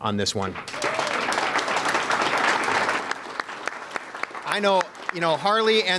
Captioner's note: audience applauding